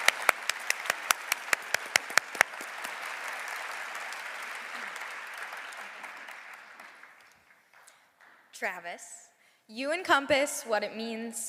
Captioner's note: applause